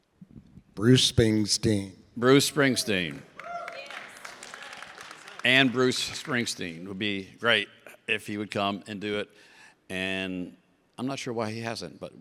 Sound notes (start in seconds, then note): 2.9 audience cheers and claps